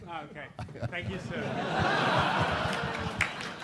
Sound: laughing; clapping

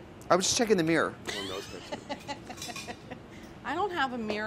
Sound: laughs

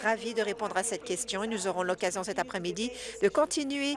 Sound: speaking in French

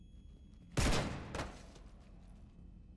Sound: gunshot

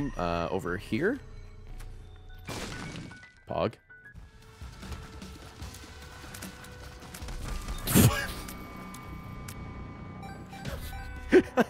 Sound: laughs

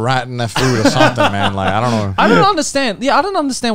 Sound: laughing

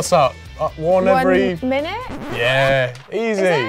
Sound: record scratch

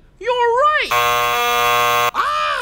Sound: loud buzzer

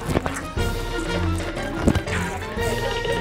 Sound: slapping each other

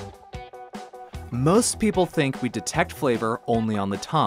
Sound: funky music; voiceover

